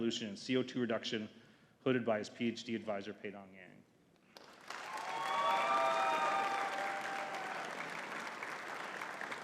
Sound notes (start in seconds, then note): 4.4 audience cheering and clapping